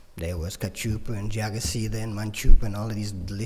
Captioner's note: foreign language